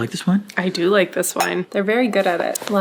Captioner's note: glasses clinking